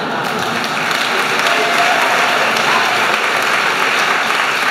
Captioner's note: applause